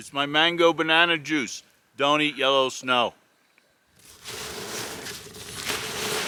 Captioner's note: snow crunching